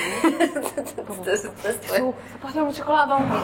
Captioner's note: laughter